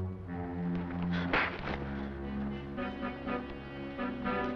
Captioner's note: slap cracking